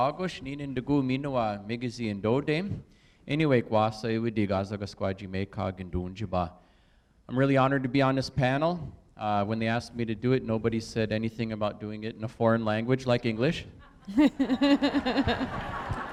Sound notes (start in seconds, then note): 0.9 speaking native language